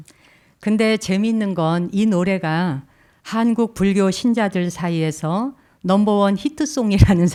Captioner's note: speaking in Korean